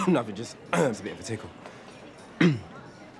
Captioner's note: clears throat; coughs